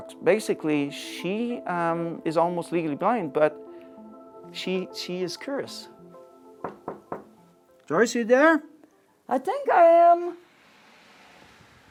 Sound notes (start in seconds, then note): 6.6 knocking